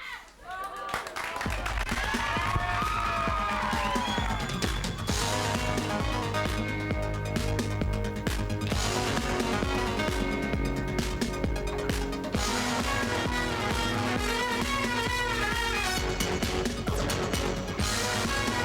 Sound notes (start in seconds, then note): 0.0 crowd cheering; 1.1 lively music